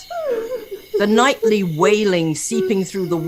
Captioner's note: girl sobbing